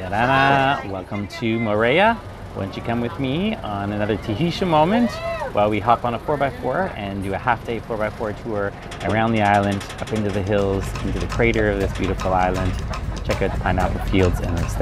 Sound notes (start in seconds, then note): 1.2 foreign language; 4.8 tourists shouting